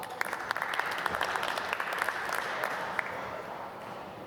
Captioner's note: applause